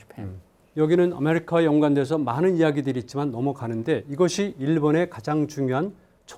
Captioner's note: speaking in Korean